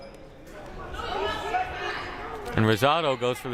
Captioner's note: crowd murmuring